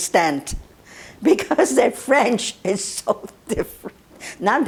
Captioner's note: laughing